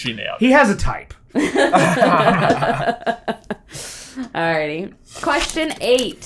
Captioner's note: laughter